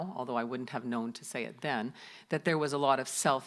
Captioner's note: none